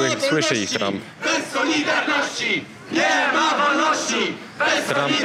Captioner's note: chanting